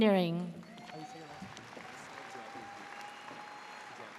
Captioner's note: audience cheers